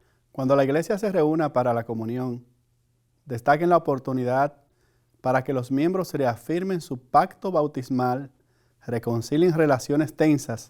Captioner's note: speaking Spanish